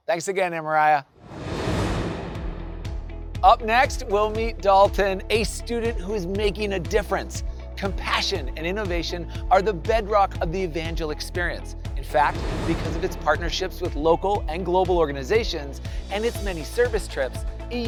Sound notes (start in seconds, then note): 1.1 air whooshing